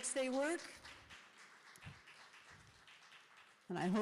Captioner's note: applause